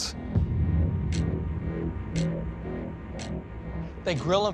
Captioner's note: ticking